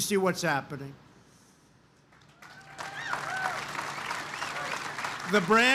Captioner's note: applause